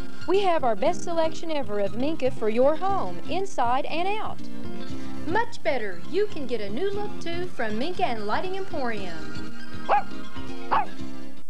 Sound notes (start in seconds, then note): 10.6 barking